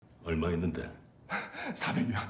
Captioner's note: man speaking in foreign language; man panting; man speaking in foreign language